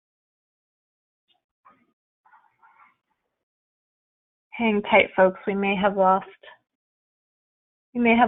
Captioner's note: silence